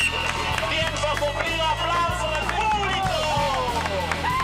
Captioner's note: Spanish spoken audio